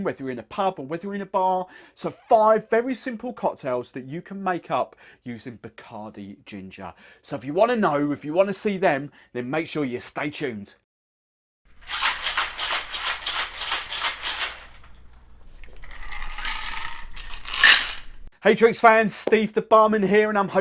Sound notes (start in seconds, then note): 11.9 pouring